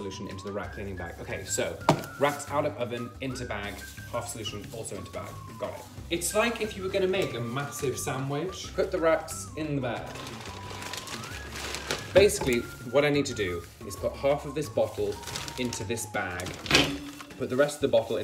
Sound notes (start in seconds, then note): 8.8 bag crinkling